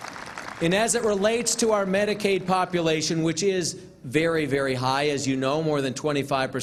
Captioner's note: applause